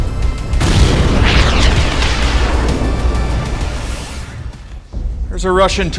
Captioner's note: tense music; torpedo rushing